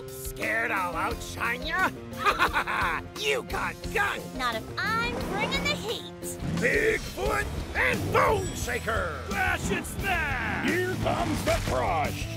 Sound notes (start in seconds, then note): 2.2 laughing